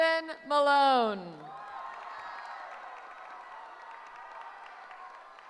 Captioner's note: cheering